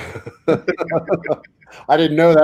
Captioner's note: all laugh